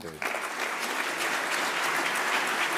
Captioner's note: applause